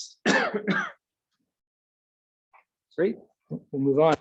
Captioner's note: coughs